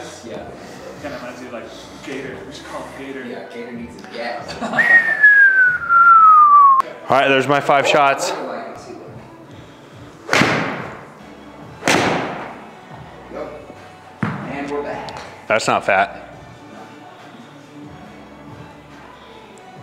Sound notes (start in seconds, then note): 4.8 whistles; 4.8 crewmember laughs; 10.3 ball thuds; 14.2 ball thuds